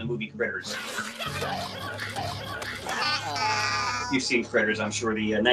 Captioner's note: creatures chattering